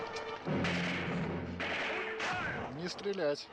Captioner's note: crashing